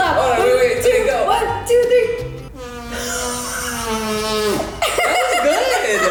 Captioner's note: lauGHING